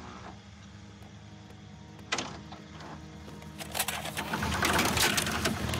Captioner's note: projector film loading